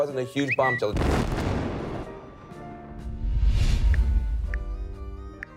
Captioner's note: explosions booming